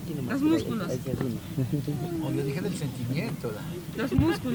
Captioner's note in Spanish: risas